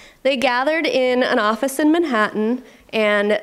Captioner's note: none